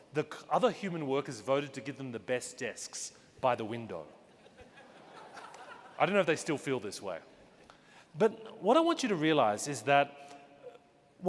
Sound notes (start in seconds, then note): 4.4 audience laughing